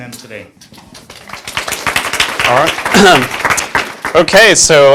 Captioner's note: class applauding